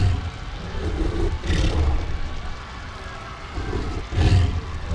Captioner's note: beast growling